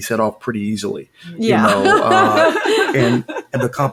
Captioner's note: laughing